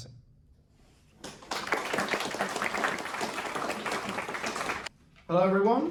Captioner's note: applause